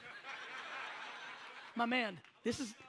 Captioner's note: audience laughs